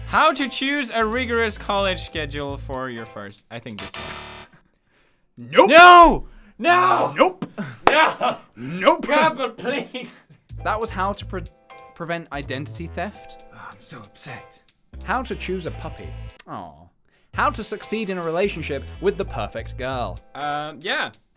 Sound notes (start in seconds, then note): 8.6 laughs; 13.9 whispers